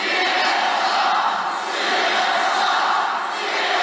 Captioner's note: crowd